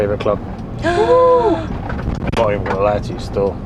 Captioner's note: gasping in shock